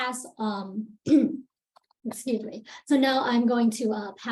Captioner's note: clears throat